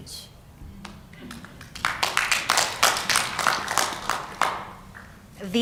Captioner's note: applause